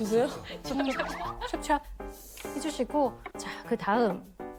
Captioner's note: bursts into laughter